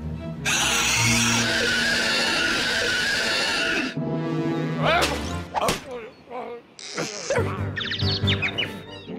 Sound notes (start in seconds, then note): 0.4 shrieking; 7.6 birds tweeting